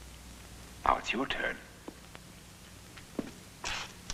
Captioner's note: none